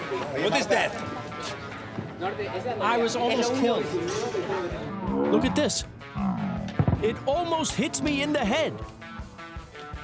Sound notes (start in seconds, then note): 6.7 explosion